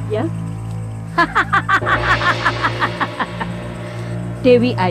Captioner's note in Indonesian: Ratu Penganten tertawa